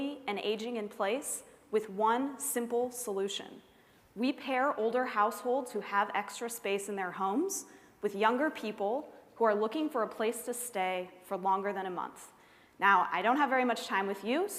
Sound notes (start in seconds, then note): none